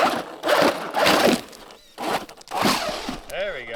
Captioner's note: crashing